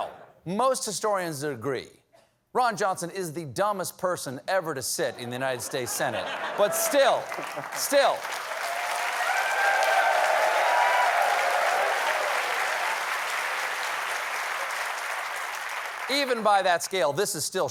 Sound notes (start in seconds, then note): 8.6 cheers and applause